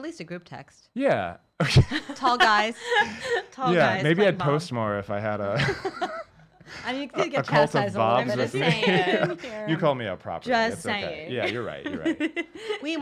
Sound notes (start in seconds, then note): 1.7 laughs